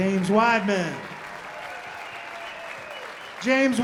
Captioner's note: audience applauding